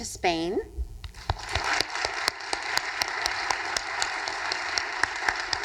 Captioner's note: audience applauding